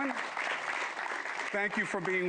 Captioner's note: applause